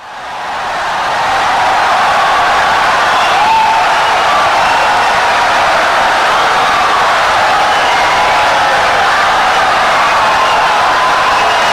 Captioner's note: wild applause and cheering for 17 seconds